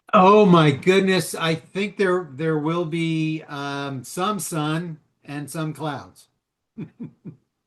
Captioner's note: chuckles